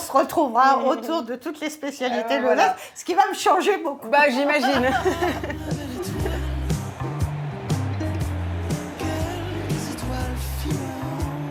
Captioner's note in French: rires